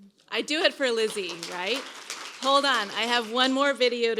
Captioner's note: applause